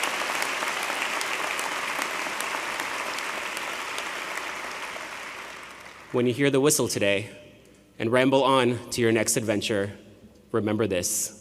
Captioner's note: applause